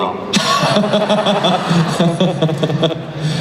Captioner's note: laughing